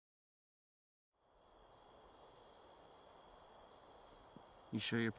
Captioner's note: insects buzzing